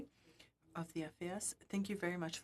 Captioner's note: speaking FRENCH